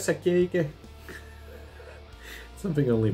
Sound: chuckles

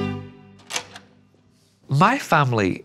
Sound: door clicks open

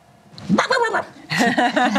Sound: imitates dog barking; laughter

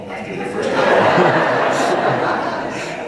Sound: laughter

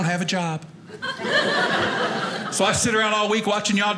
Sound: audience laughing

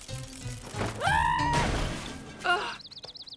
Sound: screaming

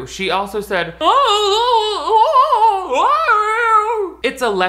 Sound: they scream

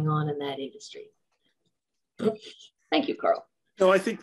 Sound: laughs

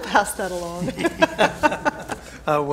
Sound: chuckles

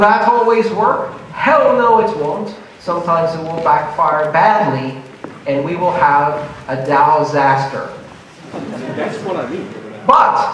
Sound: laughter

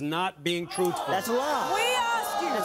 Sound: audience gasping

